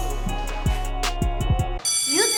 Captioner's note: bell ringing